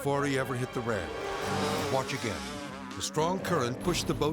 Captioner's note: motor revving